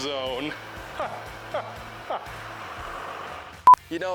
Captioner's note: laughs